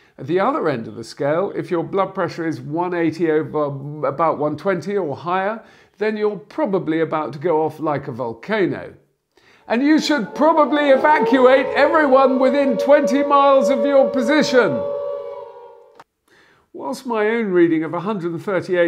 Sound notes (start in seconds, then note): 9.6 shouts against WW2 air raid siren in background